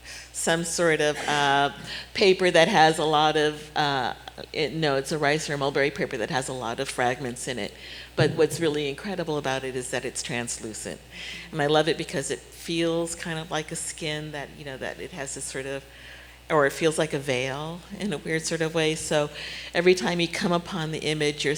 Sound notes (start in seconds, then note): none